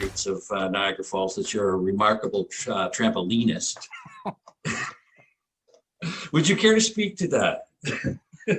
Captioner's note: laughter